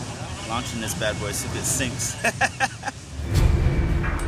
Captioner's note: laughing